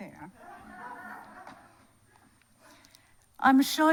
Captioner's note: audience laughs